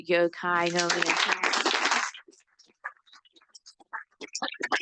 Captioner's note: audience applauds